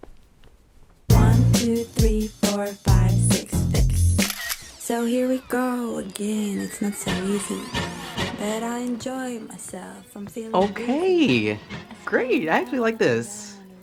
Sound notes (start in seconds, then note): 4.2 camera clicks